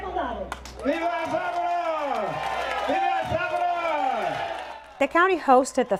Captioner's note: cheers